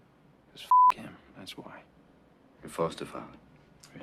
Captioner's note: beep